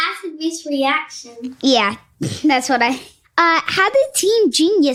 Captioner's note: giggles